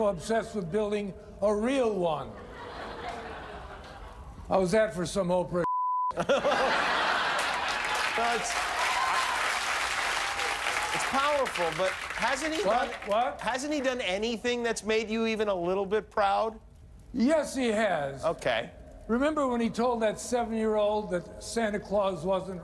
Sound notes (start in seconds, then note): 6.1 laughter; 8.8 cheers and applause